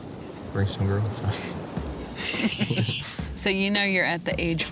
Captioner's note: laughter